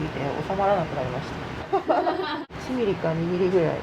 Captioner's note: laughs